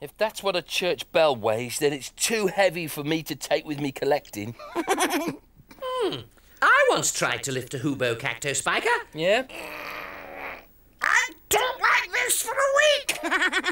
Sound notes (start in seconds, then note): 4.6 laughs; 9.4 grunts; 13.0 laughing